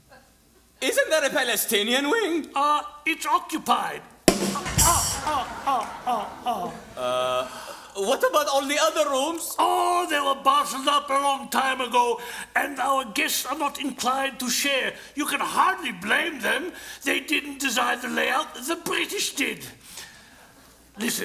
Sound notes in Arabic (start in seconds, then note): 4.2 ضحك